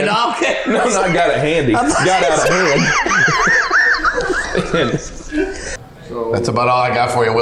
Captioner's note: laughing